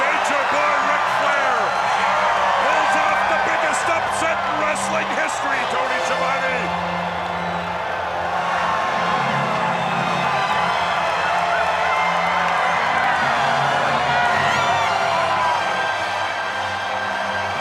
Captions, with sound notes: Nature Boy Ric Flair, pulls off the biggest wrestling history, Tony Schiavone. (dramatic music) (crowd cheering)